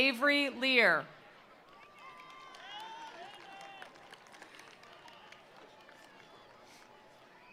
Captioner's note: attendees cheering; attendees applauding